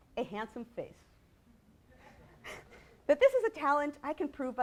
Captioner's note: laughter